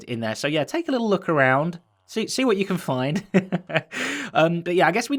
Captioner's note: chuckles